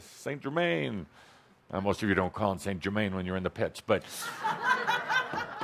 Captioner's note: laughter